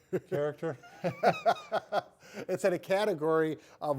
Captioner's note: laughing